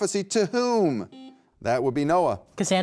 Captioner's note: beep